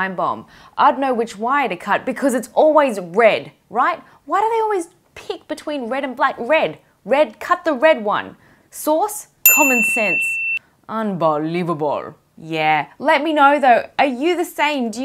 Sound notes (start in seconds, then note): 9.6 piercing bip